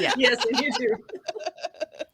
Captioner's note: laughing